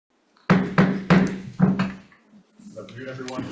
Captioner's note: gavel banging